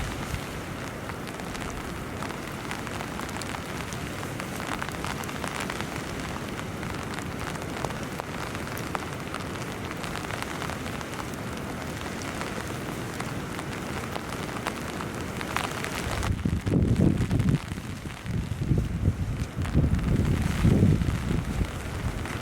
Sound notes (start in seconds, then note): 6.2 sound of heavy rain; 22.1 sound of heavy rain